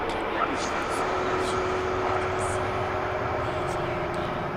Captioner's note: whispering continues